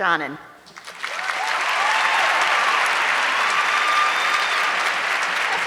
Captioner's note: audience clapping